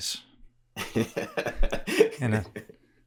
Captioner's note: laughs